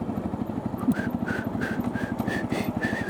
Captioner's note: whistles